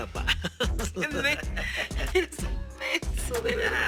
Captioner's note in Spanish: Risas